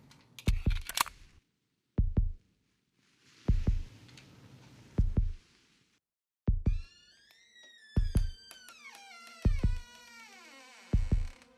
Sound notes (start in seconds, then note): 6.7 door creaking